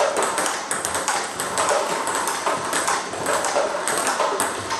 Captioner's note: balls ping pong hitting continues